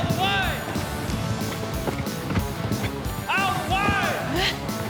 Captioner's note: fast hoof beats